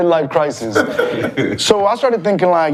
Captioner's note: all laugh